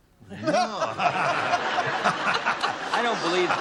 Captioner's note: laughter